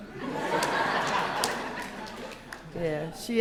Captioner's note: laughter